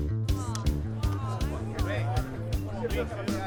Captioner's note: chattering